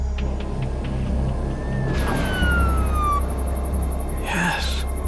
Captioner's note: siren wailing